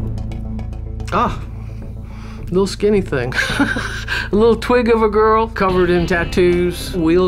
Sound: laughs

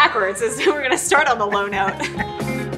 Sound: laughter; upbeat music

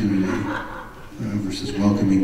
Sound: audience laughs

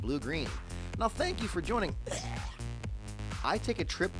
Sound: hacking

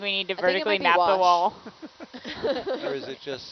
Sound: everyone laughs

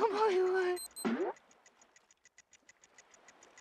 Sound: ticking

